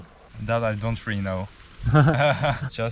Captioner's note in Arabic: يضحك